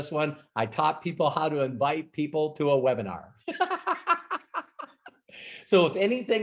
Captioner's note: laughs